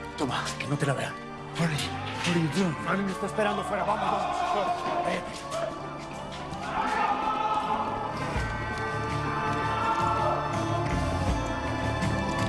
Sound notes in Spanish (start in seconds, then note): 4.1 Griterío; 5.1 Alarmas sonando